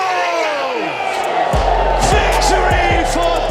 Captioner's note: crowd cheering